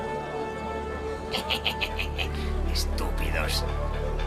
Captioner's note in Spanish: risa malvada